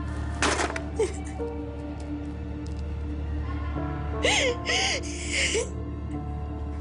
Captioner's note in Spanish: Sollozos